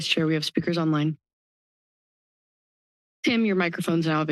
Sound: pause

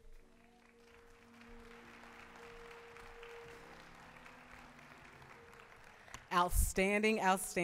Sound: applause

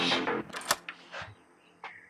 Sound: door unlocks

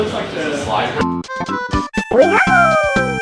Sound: Yoshi scream

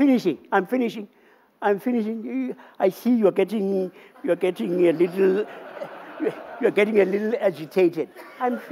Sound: laughter

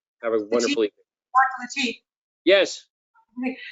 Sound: woman's Voice

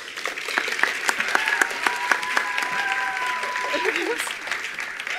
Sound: attendees applauding

